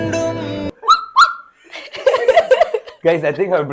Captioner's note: puppy barks